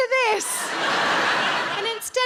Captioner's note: audience laughs